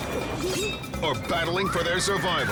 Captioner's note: sword clashes